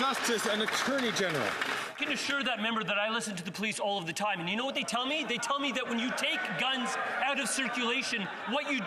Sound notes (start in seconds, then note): 2.5 some Applause